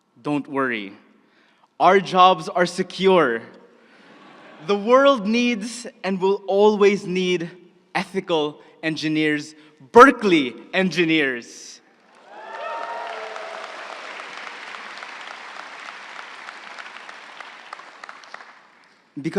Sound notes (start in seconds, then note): 12.0 crowd cheering and applauding